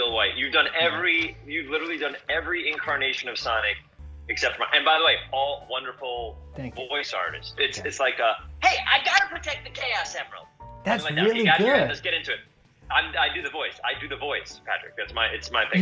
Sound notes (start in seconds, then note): 7.9 slips effortlessly into Sonic voice